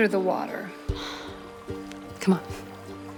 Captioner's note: Siena sighs